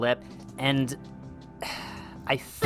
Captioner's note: sighs